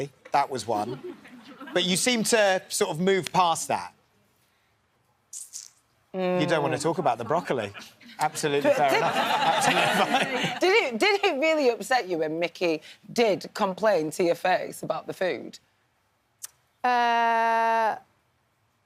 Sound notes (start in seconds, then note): 6.6 laughing